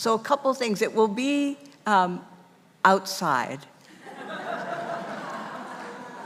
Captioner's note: audience laughing